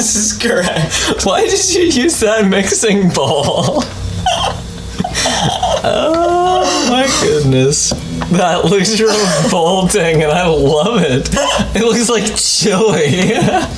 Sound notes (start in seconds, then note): 0.1 laughing; 0.8 both laugh; 4.2 laughing; 4.9 laughter continues; 10.3 laughing